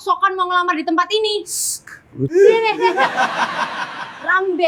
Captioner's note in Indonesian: tertawa